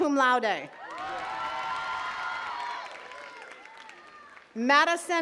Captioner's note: attendees cheering and clapping